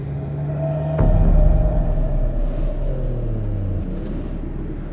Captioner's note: car tires screeching